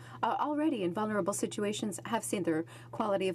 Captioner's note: speaking French